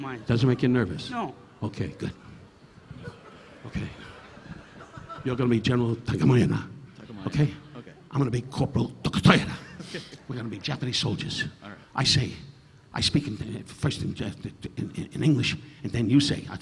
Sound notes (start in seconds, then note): 1.9 audience laughing; 9.6 chuckling